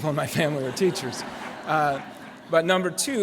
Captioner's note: laughter